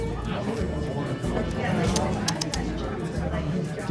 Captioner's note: tisking